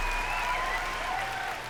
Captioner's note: applause and cheering